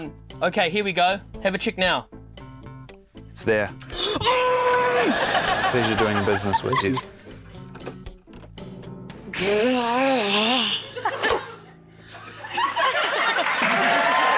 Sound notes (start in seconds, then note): 4.3 strains; 9.3 growls in exasperation; 12.2 laughter; 12.9 cheering, applause